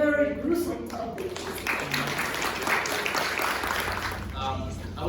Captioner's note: applause